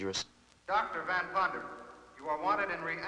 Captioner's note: loudspeaker